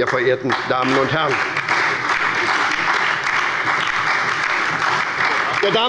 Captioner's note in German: Beifall bei der SPD und der LINKEN